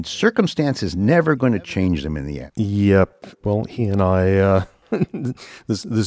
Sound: laughs

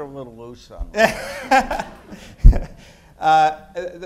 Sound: laughter

